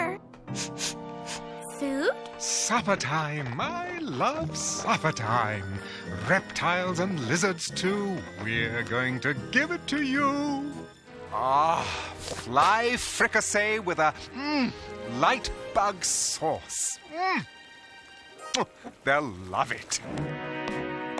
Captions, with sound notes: [sniffing] FOOD? - SUPPERTIME. I LOVE SUPPERTIME. REPTILES AND LIZARDS TOO, WE'RE GOING TO GIVE IT TO YOU. AH. FLY FRICASSEE WITH A--MMM--LIGHT BUG SAUCE. MMM! [smacks lips] THEY'LL LOVE IT.